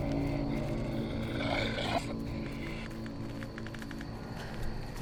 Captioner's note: werewolf growling